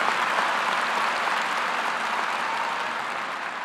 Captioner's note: applause